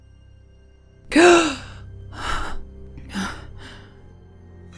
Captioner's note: gasps